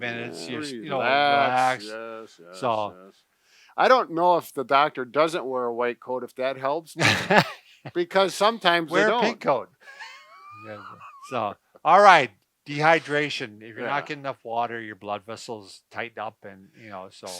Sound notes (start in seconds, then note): 7.0 laughing